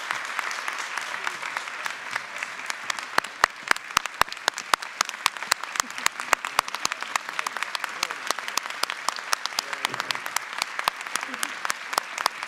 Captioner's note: applause